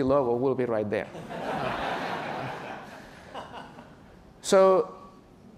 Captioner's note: laughter